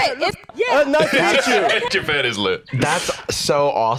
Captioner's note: laughs